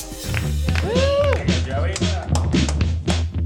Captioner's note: cheering